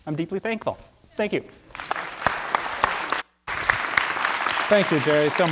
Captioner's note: audience applauding